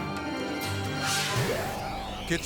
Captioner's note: graphics whooshing